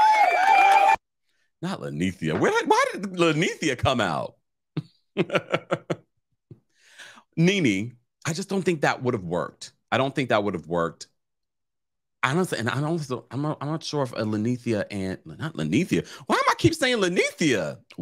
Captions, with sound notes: Not Linnethia, why did Linnethia come out? (laughs) NeNe, I just don't think that would've worked. I don't think that would've worked. And I'm not sure if Linnethia and- Not Linnethia! Why am I keep saying Linnethia?